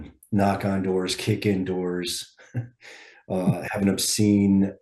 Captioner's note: laughs